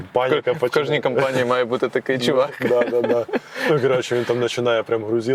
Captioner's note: laughs